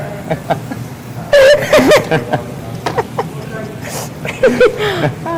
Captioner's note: students laugh